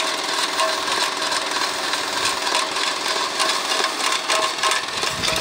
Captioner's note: crusher engine rumbling